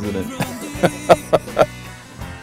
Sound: laughing

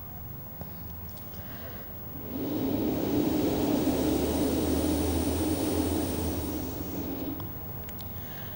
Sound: shri mataji blows into the microphone

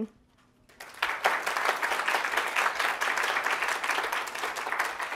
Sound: applause

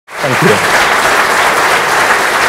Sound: applause

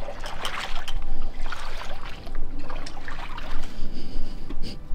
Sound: water splashing

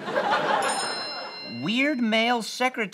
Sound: bell noise

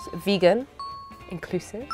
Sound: bell chimes

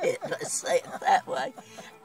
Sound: laughs

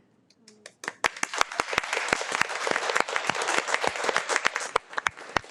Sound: audience applauds

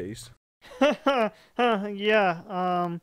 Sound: awkwardly laughing

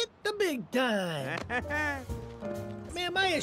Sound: Chris Pratt chuckles

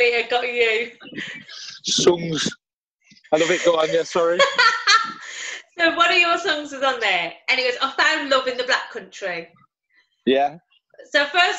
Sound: laughter; laughter

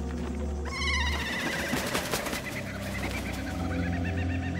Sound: birds call

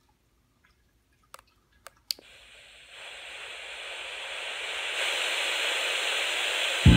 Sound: static

